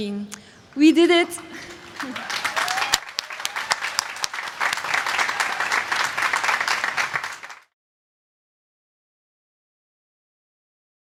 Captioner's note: applause